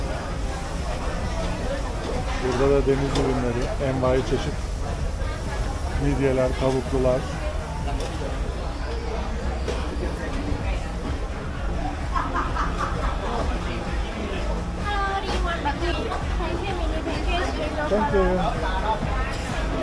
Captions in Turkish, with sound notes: Burada da deniz ürünleri envai çeşit midyeler, tavuklular. [kahkaha] Hello. Thank you.